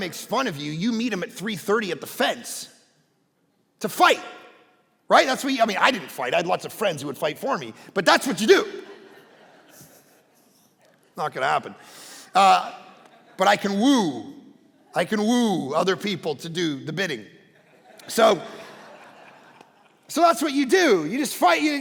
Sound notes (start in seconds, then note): 8.0 congregation laughing; 17.5 congregation laughing